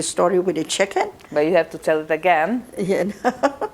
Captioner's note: laughing